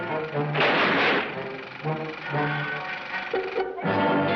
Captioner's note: reel clicking; door slams; tense marching music continues